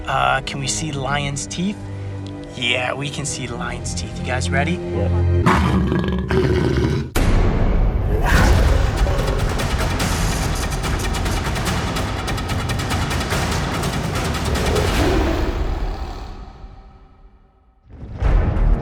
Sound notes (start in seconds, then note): 5.4 growling; 8.5 intense music